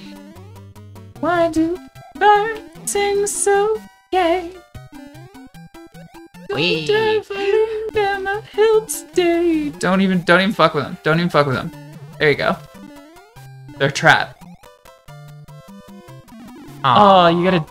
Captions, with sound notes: [humming] Wee. Don't even, don't even fuck with them. Don't even fuck with them. There you go. They're trapped. Aw, you gotta...